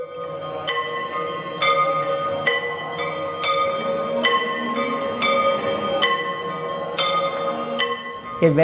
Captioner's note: temple bells ringing